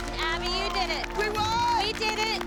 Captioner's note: cheering and applause